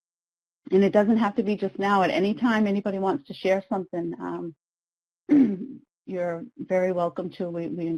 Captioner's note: clears throat